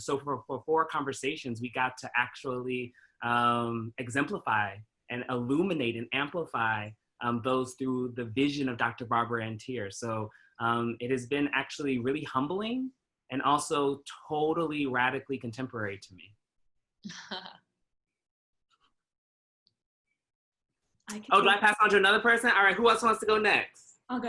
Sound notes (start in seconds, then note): 17.4 laughing